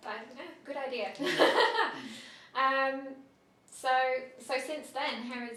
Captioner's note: laughter